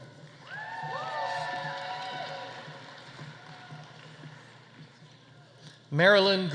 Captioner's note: audience applauding; audience cheering